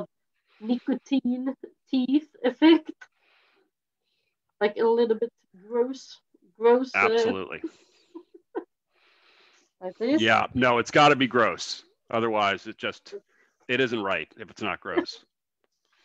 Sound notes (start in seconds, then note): 7.9 laughs